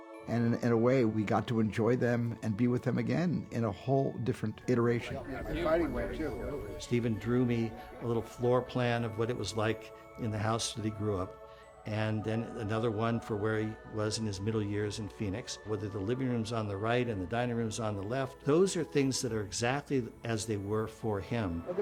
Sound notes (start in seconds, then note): 4.7 chattering